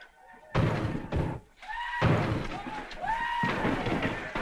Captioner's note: whooping - blows